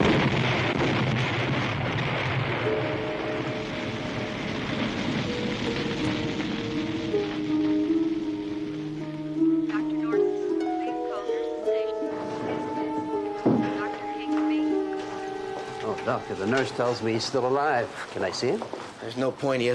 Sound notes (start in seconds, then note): 5.1 suspenseful orchestral music; 11.4 woman Over PA